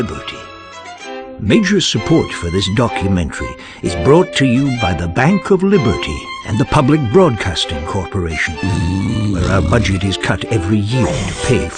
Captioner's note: snoring sounds